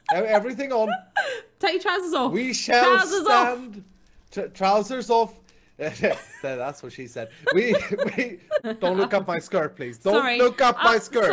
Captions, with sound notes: E--everything on. Take your trousers off! We shall stand-- Trousers off!! T--trousers off... *giggling* That's what she said! We--we-- Don't look up my skirt please-- Sorry-- DON'T LOOK UP MY SKIRT!!!